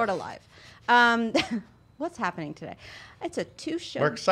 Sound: chuckles

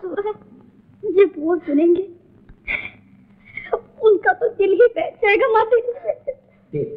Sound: crying

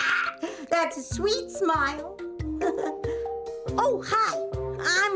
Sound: laughing

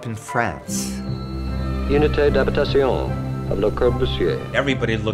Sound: man speaking French

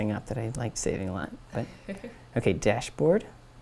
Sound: laugh

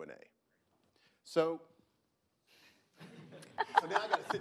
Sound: laughing

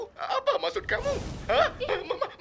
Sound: fire bursts

